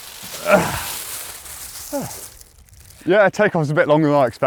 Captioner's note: grunts